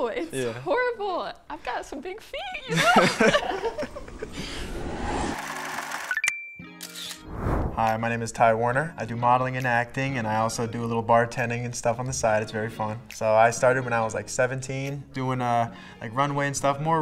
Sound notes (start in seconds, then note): 2.6 both laugh; 4.3 text swooshes and dings; 6.8 camera clicks